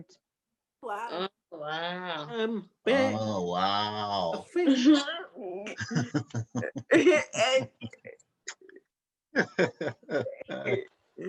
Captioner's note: laughing